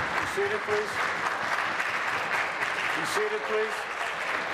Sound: applause

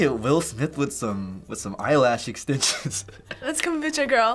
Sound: chuckles

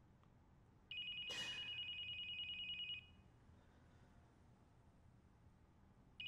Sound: cellphone rings

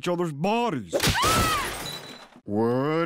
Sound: screams

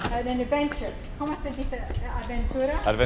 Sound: speaking Spanish; speaking Spanish

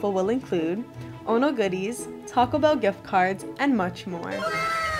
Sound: anime wow sound effect

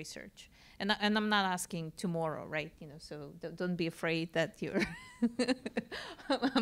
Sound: laugh

